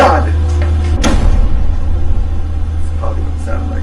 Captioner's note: fist bangs